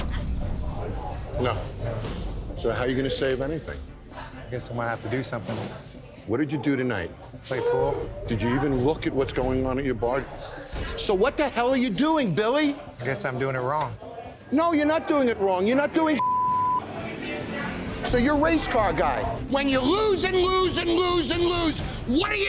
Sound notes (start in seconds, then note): 16.2 beep